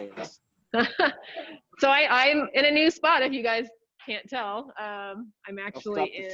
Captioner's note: chuckles